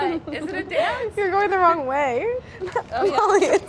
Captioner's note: laughs